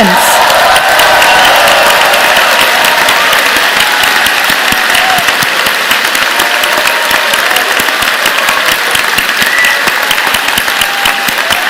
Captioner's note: cheers and Applause